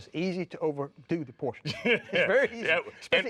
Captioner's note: laughing